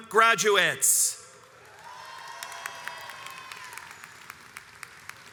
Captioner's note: crowd applauds and cheers